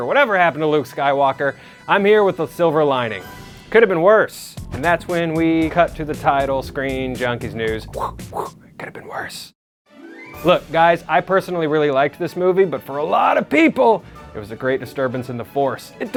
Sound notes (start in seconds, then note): 7.7 whispered